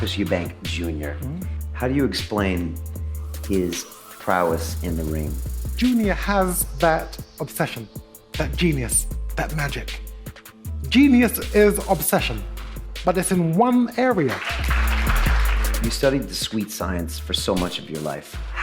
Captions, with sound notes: - Chris Eubank Jr., how do you explain his prowess in the ring? - Junior has that obsession, that genius, that magic. Genius is obsession, but it's in one area. (audience applauding) - You studied the sweet science for so much of your life.